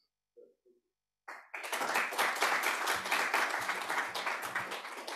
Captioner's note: applause